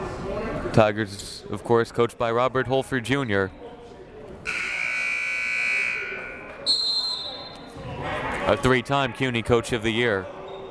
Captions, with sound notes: Tigers of course, coached by Robert Holford Jr. (buzzer) (whistle) A three time CUNY coach of the year.